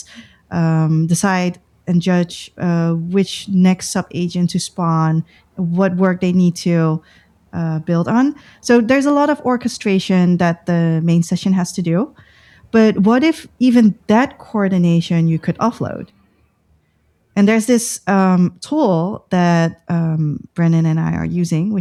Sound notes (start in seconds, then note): 0.0 uh; 7.3 uh